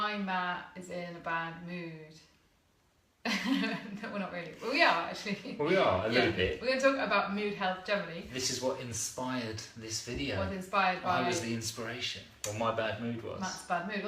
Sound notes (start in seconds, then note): 2.9 light laughter